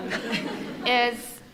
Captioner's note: members of the audience laughing